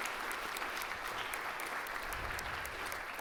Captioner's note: applause